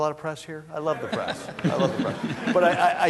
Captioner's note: laughter